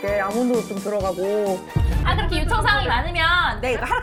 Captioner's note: interrupting sound effect